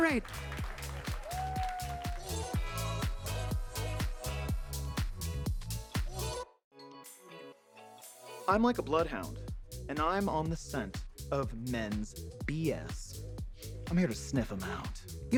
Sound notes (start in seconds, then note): 0.0 attendees clapping; 0.0 upbeat music; 13.0 sniffs